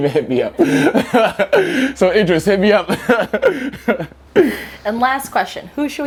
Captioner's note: laughing